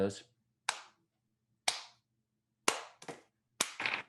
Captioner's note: Pointris slow clapping